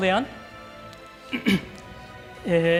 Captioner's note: clears throat